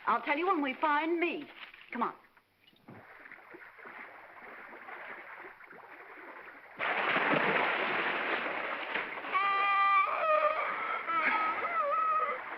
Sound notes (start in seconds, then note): 6.8 water splashing; 9.4 seal barks